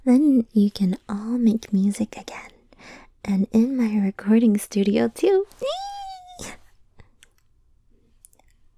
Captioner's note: squeals excitedly